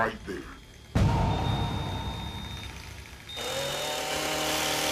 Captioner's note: saw whirs